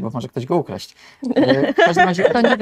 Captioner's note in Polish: śmiech